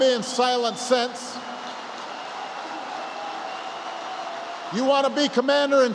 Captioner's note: applause